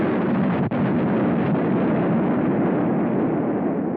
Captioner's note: loud Blast